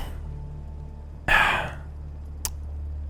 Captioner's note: sigh